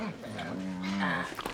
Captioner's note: King slobbering